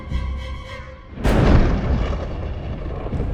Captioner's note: thunder crashes